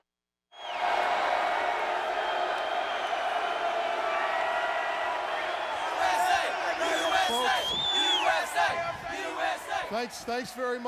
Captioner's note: crowd cheering